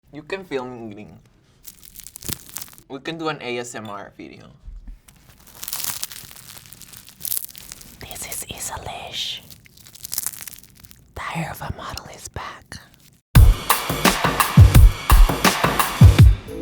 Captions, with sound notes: - You can film me eating. [pastry cracking] We can do an ASMR video. [pastry cracking] [whispering] This is Issa Lish. Diary of a Model is back. [upbeat music]